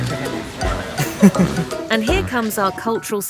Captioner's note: laugh